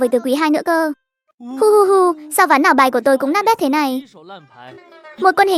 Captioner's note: sob sob sob